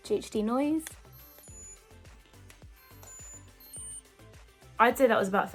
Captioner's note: curling wand beeping